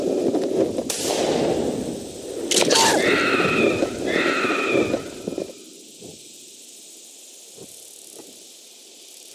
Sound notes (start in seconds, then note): 2.4 bird attack